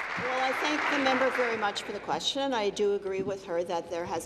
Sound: applause

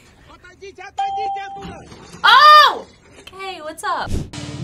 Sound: bell rings

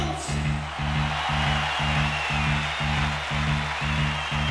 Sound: crowd cheers

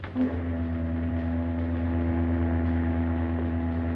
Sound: ship horn honking

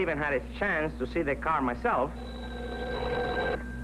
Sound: rings

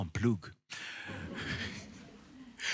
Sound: skratt från publiken

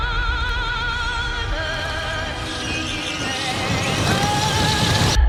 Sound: high-pitched squeaking

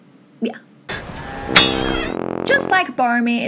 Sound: sad trombone

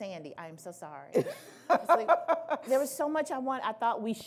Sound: laughing

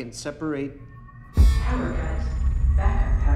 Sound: alarm blaring

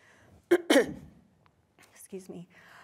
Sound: coughs

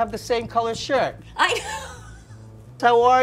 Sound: laughs

